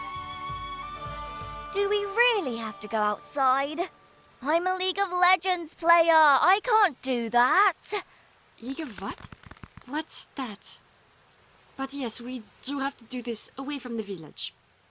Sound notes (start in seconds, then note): none